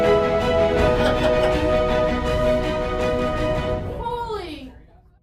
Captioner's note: man laughing